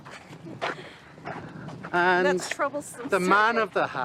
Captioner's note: she giggles